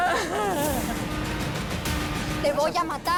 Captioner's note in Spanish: Sollozos